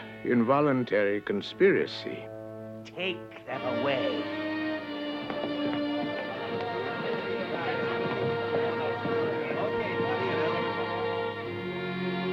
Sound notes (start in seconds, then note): 3.3 all murmuring; 4.4 dramatic orchestral music